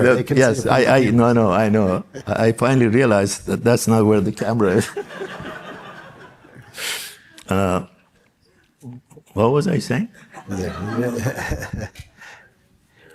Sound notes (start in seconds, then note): 4.8 audience laughs